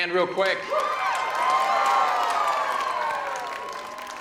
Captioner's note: cheers and applause